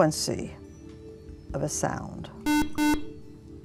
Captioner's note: buzzer